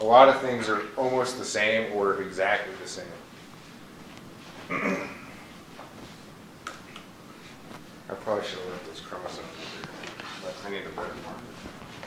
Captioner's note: clears throat